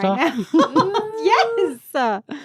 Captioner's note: laughs